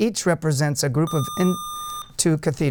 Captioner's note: buzzer